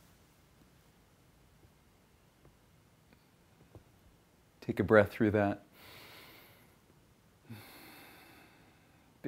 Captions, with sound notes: Take a breath through that. (breathes deeply)